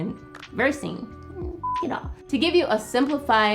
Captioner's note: beep